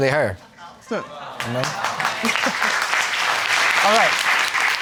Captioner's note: audience clapping